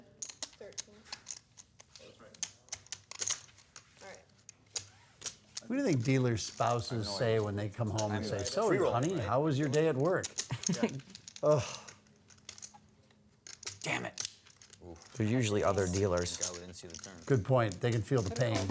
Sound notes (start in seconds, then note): 10.5 laughs